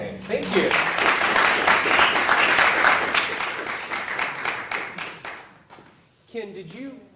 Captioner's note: applause